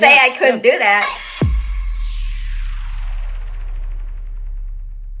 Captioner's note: whooshing; thudding